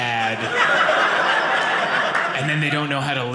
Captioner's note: audience laughing